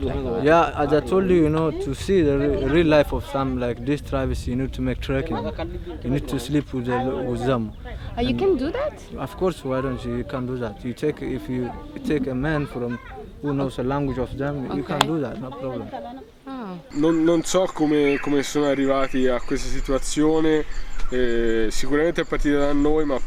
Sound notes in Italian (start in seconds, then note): 0.0 Inglese